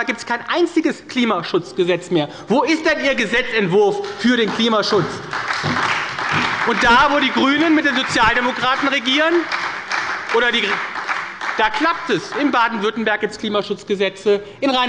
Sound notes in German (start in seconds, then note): 4.9 Beifall bei der SPD